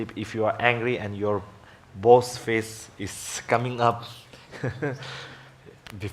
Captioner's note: laughs